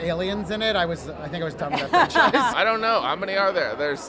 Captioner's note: laughter